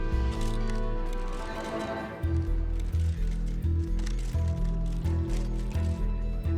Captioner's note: shutters clicking